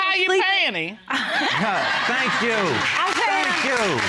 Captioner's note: all laughing